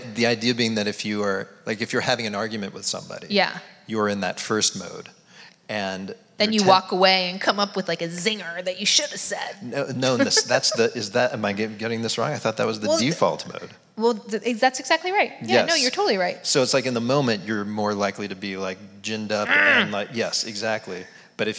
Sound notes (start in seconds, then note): 19.3 groans